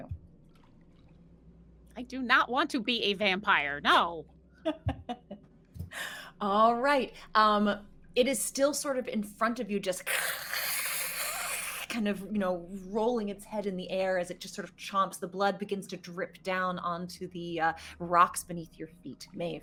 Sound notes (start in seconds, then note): 4.6 laughing; 10.2 hissing